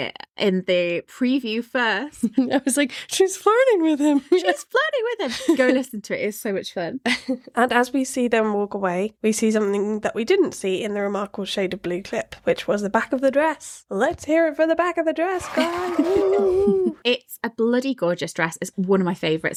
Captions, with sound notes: in the preview first. I was like, "She's flirting with him." She's flirting with him. I'm so listening to it, it's so much fun. And as we see them walk away, we see something that we didn't see in the remarkable shade of blue clip, which was the back of the dress. Let's hear it for the back of the dress, guys. (all cheering) It's a bloody gorgeous dress. It's one of my favorites.